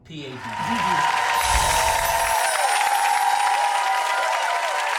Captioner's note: clapping and cheering